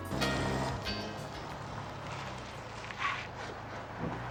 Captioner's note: engine roaring